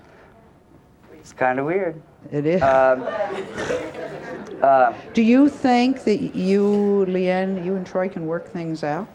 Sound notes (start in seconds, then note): 2.8 scoffs; 2.8 audience laughs